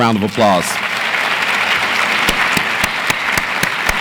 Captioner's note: audience applauds